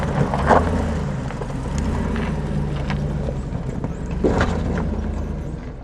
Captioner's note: engine rumbling